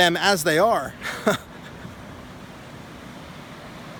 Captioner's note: laughing